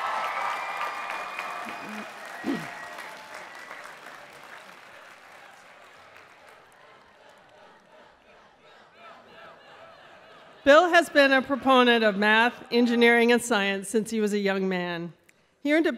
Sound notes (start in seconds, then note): 0.0 applause and cheering; 5.2 Crowd chanting "Bill, Bill, Bill, Bill..."